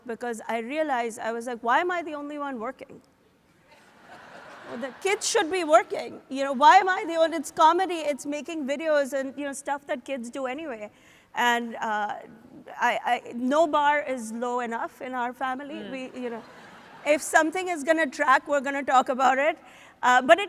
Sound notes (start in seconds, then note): 3.8 audience laughs